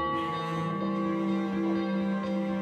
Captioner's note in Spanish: campanas